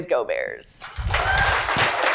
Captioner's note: applause